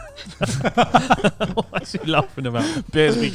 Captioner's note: laughing